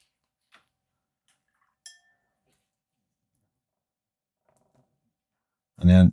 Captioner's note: silence